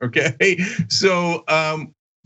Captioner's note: laugh